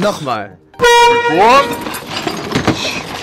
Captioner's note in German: verzerrt